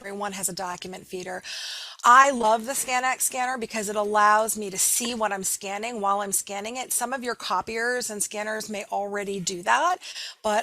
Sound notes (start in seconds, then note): none